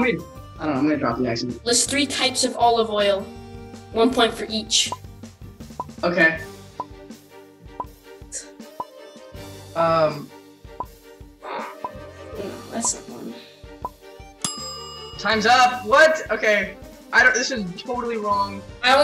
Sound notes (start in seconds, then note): 14.4 timer ding